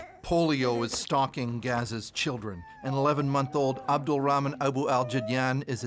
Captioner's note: crying